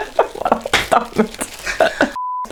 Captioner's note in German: lacht